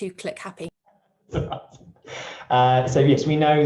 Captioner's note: laughing